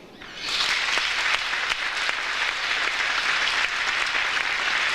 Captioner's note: audience applauds